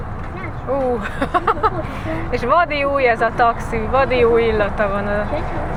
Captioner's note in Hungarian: nevetés